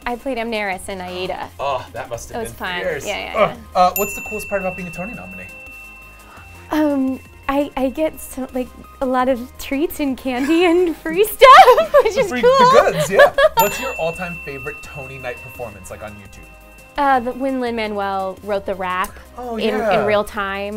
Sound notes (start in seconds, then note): 3.9 bell dings; 11.5 laughter; 13.6 bell dings